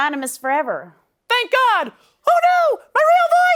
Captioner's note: high-pitched voice